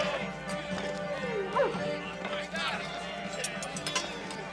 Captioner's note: men laughing uproariously; dog barks